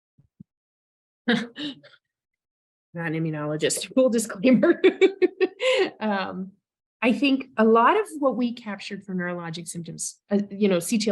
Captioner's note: laughs